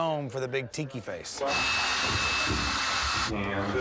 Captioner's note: electrical saw buzzing